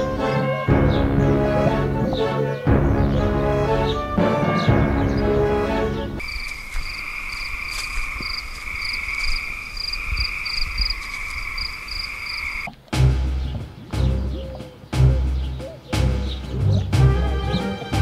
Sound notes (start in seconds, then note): 0.0 dramatic music intensifies; 6.2 cricket sounds; 12.9 heroic music